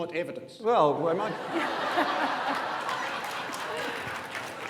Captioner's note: audience laughs